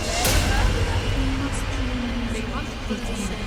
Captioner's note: voices continue chattering; ghostly Voice; voices chattering